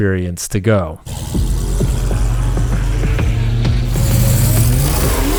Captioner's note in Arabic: هدير محرك السيارة